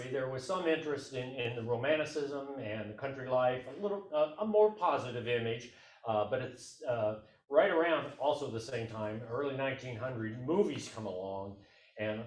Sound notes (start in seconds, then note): none